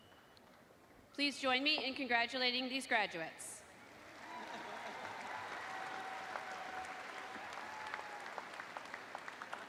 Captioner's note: applause